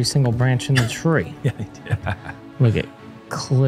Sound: chuckles

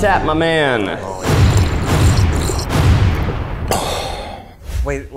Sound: slurping sounds; scores thud dramatically

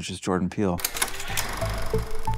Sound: text clicks and buzzes; gentle bright music

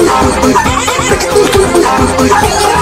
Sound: bork!!×4

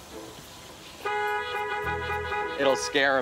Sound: horn honks

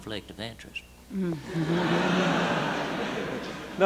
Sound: laughter

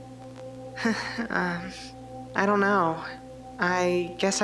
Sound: chuckles

